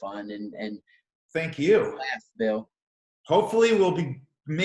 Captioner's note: murmurs